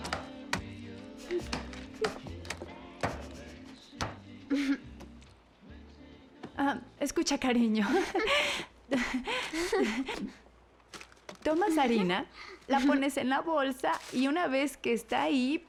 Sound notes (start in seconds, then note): 0.6 both chuckling; 8.9 laughing; 13.5 laughing